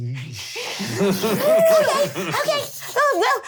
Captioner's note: laughter